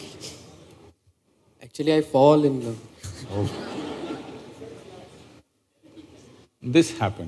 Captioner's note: laughter